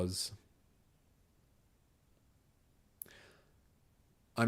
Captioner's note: silence